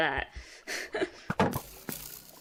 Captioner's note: sadnevous chuckle thing